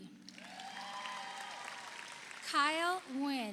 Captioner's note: audience applauds; audience cheers